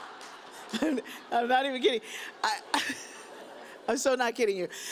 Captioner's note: chuckles